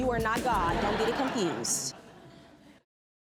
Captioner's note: audience laughing